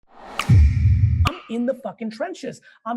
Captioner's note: logo slams